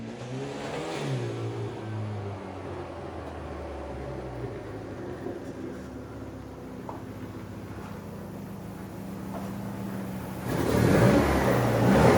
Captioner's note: engine revving